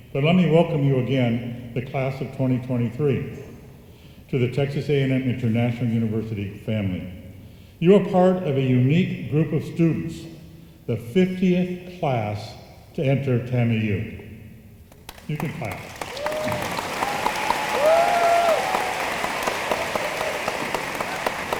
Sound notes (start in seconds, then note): 14.9 room applauds